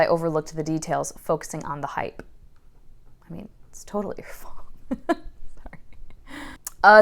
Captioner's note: laughing